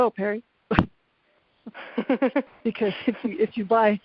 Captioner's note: both laughing